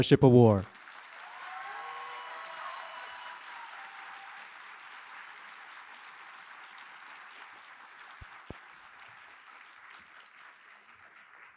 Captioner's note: applause